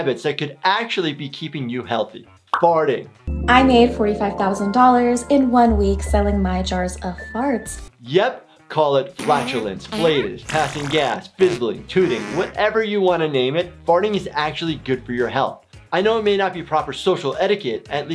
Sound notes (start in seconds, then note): 9.1 farts squeaking